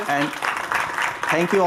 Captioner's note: applause